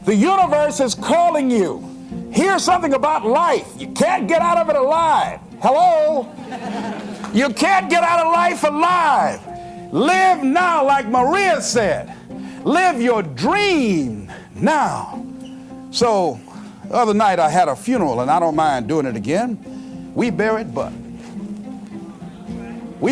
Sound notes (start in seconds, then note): 6.2 giggle